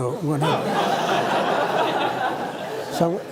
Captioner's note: laughter